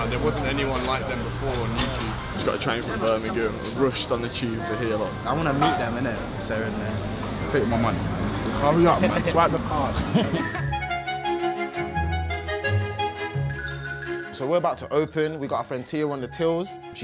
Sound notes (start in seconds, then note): 4.7 murmuring; 10.2 upbeat playful music